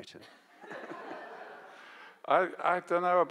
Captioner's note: audience laughs